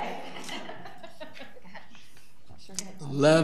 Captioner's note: audience laughs